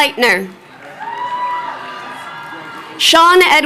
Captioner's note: crowd cheering